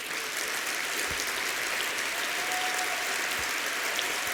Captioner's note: applause